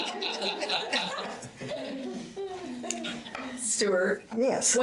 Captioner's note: audience laughter